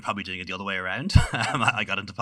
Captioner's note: laughing